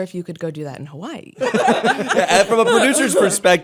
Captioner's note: laughter